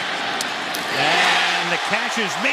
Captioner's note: cheering